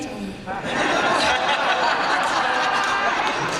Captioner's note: laughter